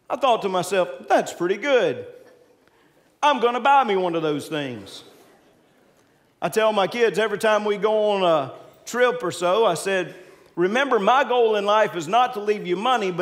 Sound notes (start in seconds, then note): 1.6 congregants laughing; 4.9 congregants laughing